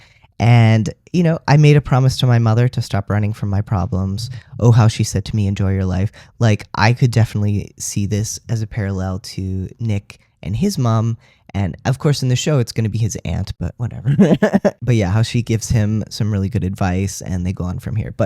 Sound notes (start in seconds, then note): 14.1 laugh